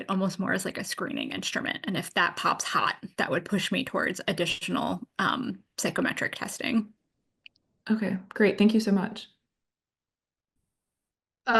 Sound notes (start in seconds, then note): none